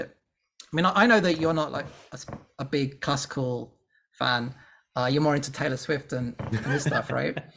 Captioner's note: polite laughs